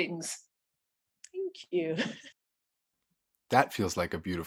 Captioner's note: chuckles